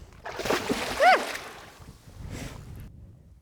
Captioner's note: water splashing